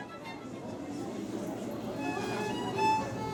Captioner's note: lively violin music; people chattering; classical violin music